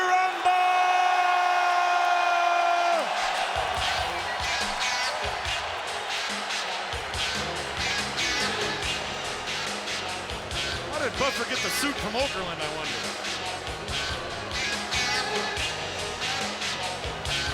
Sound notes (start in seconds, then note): 1.9 audience cheers; 4.2 upbeat music